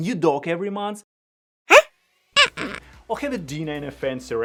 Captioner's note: dog whimpering